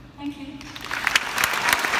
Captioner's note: applause